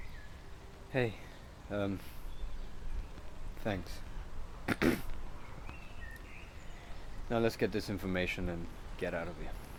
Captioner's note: clears throat